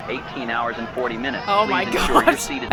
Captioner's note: passengers making racket; laughs